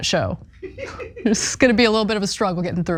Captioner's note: laugh